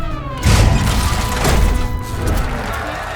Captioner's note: crowd cheering, applauding